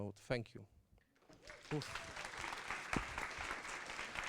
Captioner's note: applause